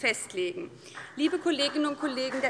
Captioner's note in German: Beifall BÜNDNIS 90/DIE GRÜNEN und vereinzelt CDU